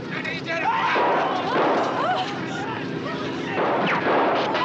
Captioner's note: shouting; gunfire